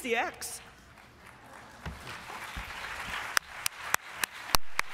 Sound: applause

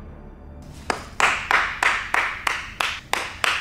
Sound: clapping

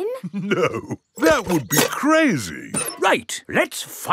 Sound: chuckling

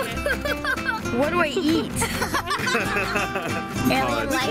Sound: laughs

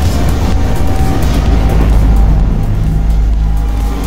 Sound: power outage, shockwave

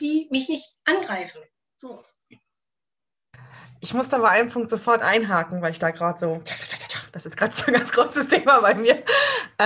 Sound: makes a rattling noise

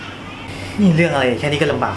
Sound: sigh

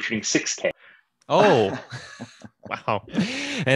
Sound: laughing

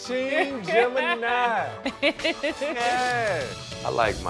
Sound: chuckles

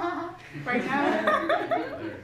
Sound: laughs

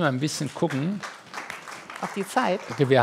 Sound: applause

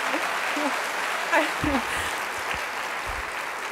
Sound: applause

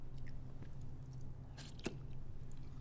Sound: slurping

